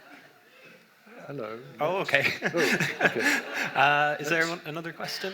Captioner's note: laughs